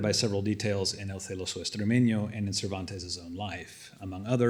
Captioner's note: non-english